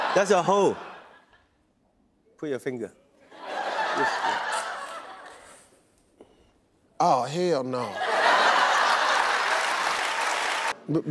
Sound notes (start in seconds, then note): 3.3 audience laughing; 8.1 audience laughing and clapping